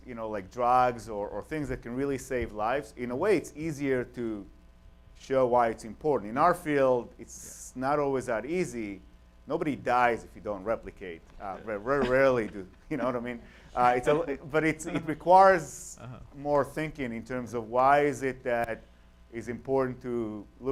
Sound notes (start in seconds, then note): 11.8 laughter